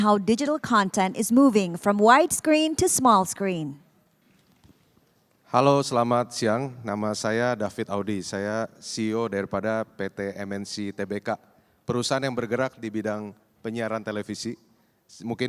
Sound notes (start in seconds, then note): 8.6 non-english speech